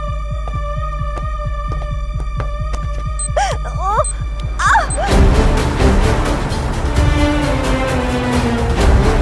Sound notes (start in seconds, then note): 2.9 screams